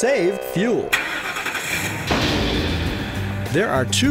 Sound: car starting & loud bang

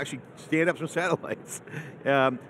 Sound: laughs

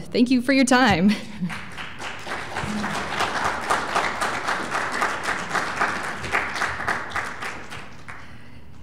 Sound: applause

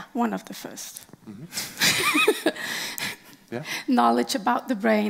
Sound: laughing

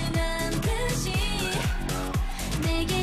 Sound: fanchant

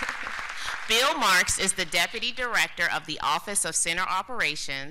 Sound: applause

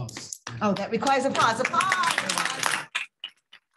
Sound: applause

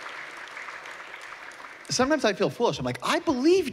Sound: applause

